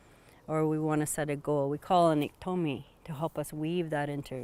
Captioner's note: non-english